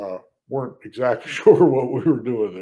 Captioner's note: laughs